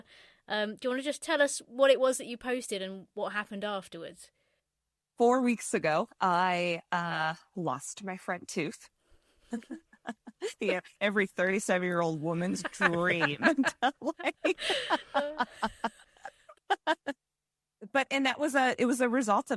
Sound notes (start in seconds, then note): 15.7 laughs